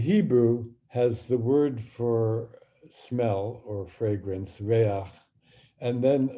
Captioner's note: speaking hebrew